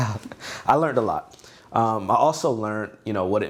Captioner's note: laughs